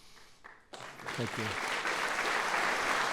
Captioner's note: applause